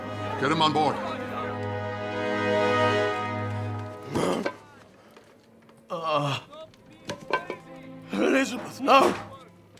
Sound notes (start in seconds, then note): 1.9 dramatic music; 4.4 man groans